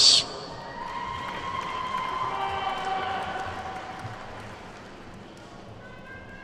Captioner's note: attendees whooping and clapping